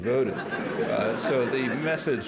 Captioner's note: laughter